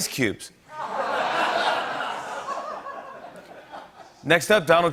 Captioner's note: laughter